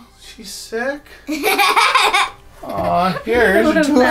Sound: laughter

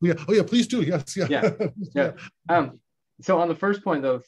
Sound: laughs

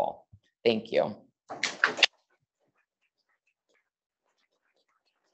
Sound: audience clapping

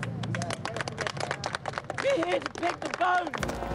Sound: crowd claps

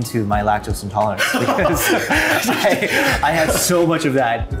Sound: both laughing

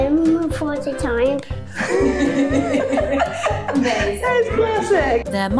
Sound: laughter

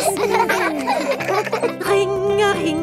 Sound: giggling

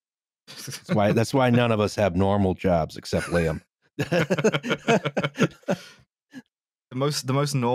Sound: both laughing

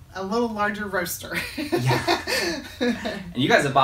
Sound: both laughing

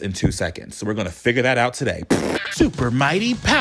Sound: lip-trilling

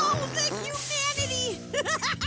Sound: fart noises

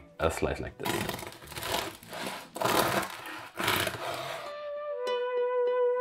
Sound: knife scrunching; gentle music

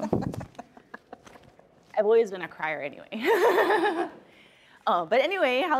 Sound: chuckles

